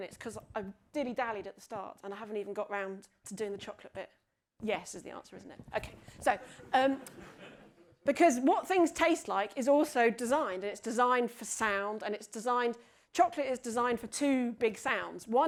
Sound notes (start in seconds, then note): 6.4 audience laughs